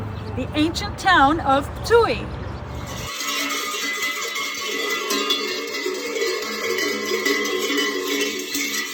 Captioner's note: cowbells